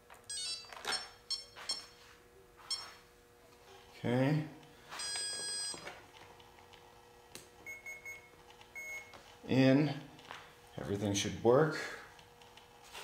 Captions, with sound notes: (electrical beeping) Okay. (electrical beep) (electrical beeping) In. Everything should work.